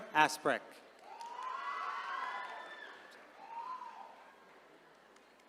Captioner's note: attendees cheering